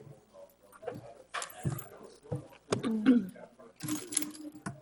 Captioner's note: background chatter